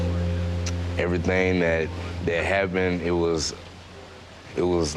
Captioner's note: chill downbeat music; clicks tongue